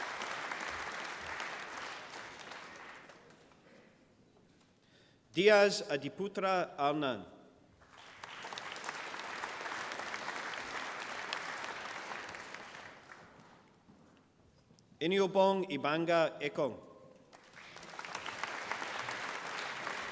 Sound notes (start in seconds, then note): 0.0 applause; 7.7 applause; 17.3 applause